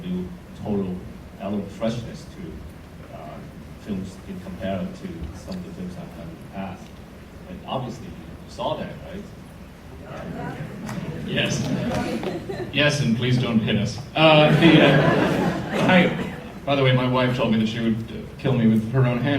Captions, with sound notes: it would a total- element of freshness to - if you compare it to something from the past. Obviously, we saw that. (audience murmurs) - Yes. Yes, and please don't hit us. (audience laughter) By the way, my wife told me she would kill me